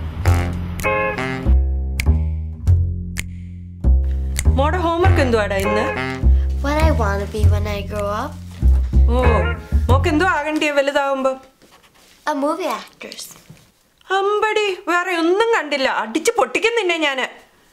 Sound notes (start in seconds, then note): none